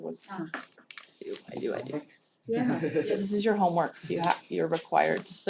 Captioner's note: laugh